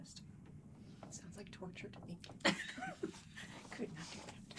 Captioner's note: light laughing